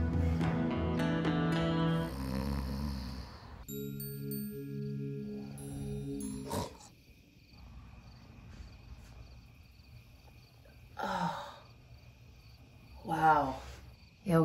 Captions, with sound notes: (snoring) (soft music) - Oh wow yoga rules.